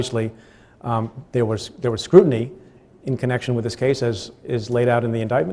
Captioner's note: stutters